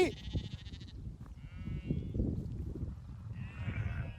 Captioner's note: sheep baaing